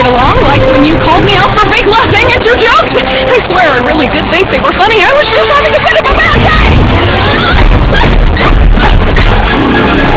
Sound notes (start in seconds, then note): 5.8 shouting, groaning